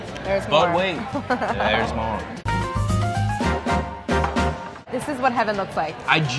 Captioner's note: laughing